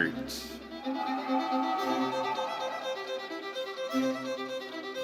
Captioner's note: audience cheering